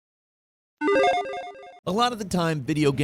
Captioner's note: retro bloop